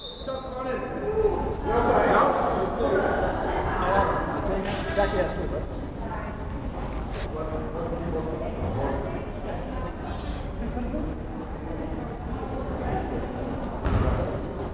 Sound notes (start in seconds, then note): 0.0 whistle blows; 2.3 crowd chattering